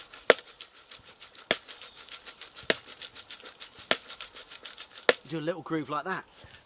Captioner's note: shaking and tapping sounds